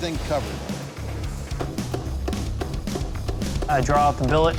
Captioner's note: machine thumping